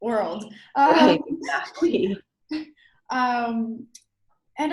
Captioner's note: laughs